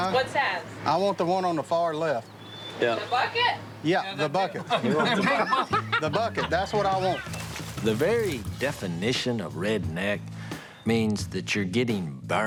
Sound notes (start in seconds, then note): 4.2 laughing